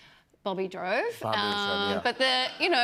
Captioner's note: none